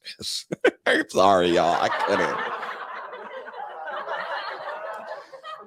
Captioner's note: crowd laughing; laughs